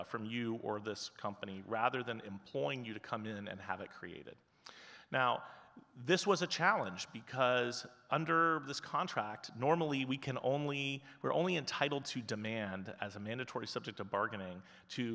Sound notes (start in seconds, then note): none